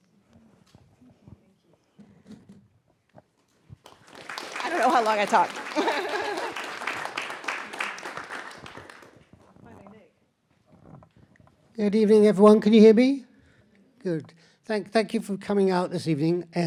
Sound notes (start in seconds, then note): 3.8 audience applauding; 6.9 laughs